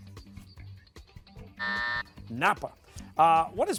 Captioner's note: buzzer